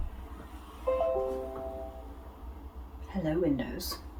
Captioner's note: Windows' warning sound